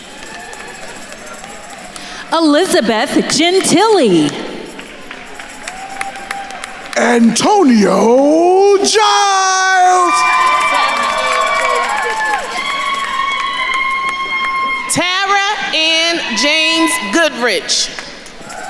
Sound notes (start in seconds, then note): 0.2 attendees cheering; 5.1 attendees cheering and applauding; 10.1 attendees cheering and applauding